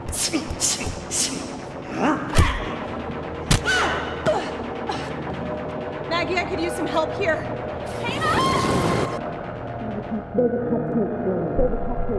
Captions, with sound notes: (Surreal punching sounds) Maggie. I could use some help here. (Sound of scream) Save a cupcake for me... (echoing)